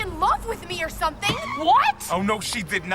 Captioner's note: breaks screeching